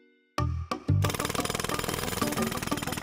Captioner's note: jackhammer pounding